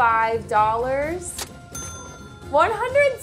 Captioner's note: cash register ringing